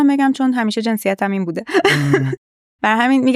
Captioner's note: laughs